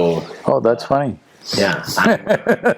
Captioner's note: laughs